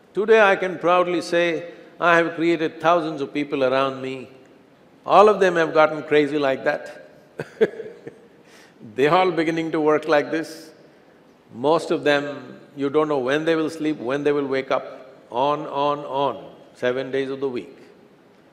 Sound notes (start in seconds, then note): 7.4 laughs